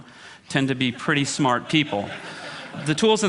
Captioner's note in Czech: smích